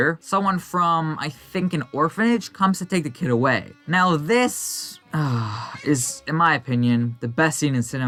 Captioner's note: deep breath